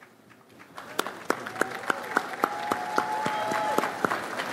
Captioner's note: audience applauds